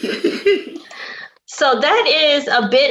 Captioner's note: laughs